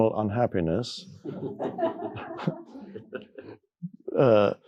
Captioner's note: people laughing